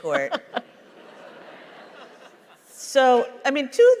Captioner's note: laughter